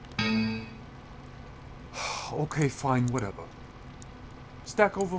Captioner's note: sigh